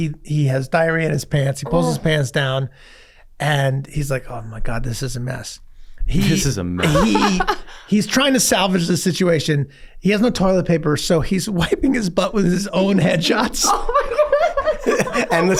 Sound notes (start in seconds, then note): 6.8 laughs; 13.6 laughs